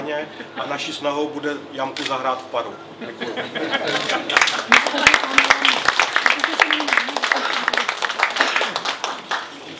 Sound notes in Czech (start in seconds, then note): 4.2 potlesk